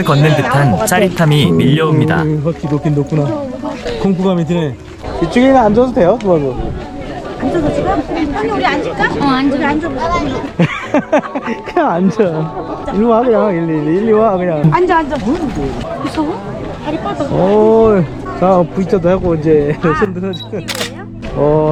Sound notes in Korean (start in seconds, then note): 10.5 웃음